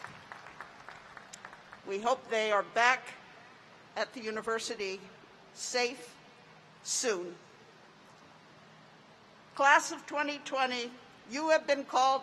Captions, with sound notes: WE THANK THOSE FELLOW REDHAWKS FOR THEIR SERVICE TO THE NATION. [APPLAUSE] WE HOPE THEY ARE BACK AT THE UNIVERSITY SAFE SOON.